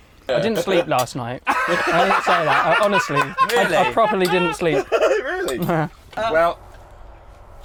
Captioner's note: all laugh